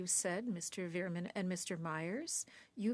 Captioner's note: speaking French